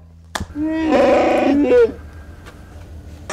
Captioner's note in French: Cri d'animal